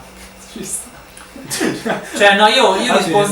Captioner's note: laughing